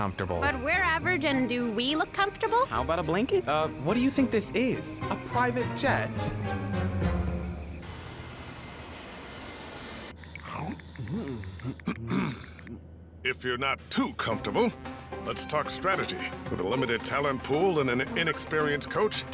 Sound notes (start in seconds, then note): 10.2 chomping; 10.4 clearing throat